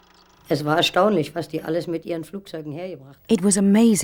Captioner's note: speaking german